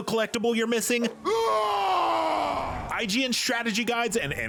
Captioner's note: primal scream